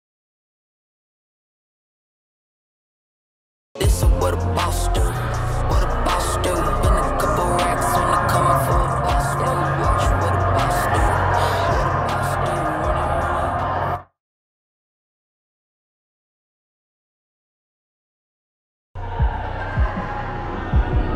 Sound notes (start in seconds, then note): 13.6 no sound